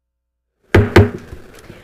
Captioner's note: gavel hitting dais